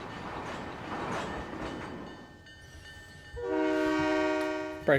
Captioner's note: train whistle